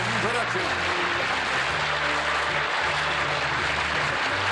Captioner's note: applause